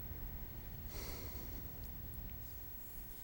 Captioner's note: sighs